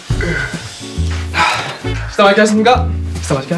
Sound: exhale

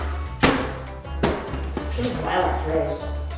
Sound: giant cube hits floor

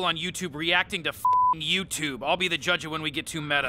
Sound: beep

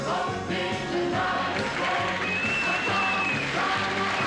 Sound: audience applauding and cheering

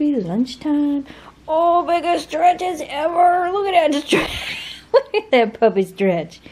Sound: laughing

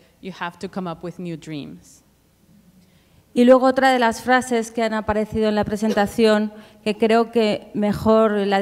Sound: speaking Spanish

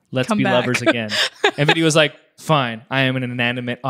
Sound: laughs

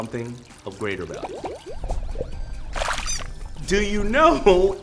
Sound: bubbles popping; squeak

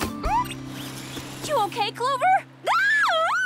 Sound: squeals

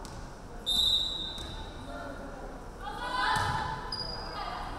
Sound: referee whistling

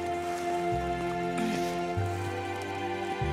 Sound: grunts

